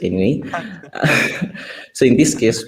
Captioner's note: chuckles